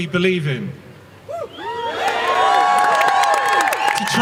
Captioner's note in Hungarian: Taps és éljenzés